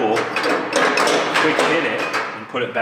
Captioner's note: metal clanging drowns out speaker